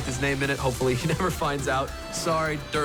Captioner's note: chuckling